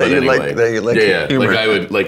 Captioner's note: laughing